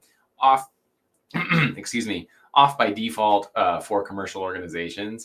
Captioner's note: clears throat